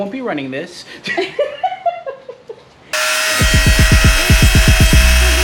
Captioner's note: laughs